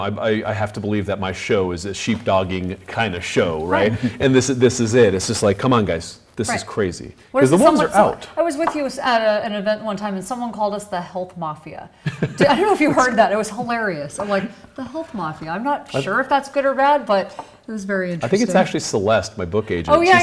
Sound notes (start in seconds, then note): 12.0 host laughs